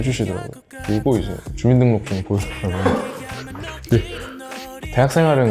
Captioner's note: laugh